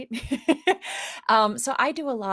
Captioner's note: laughs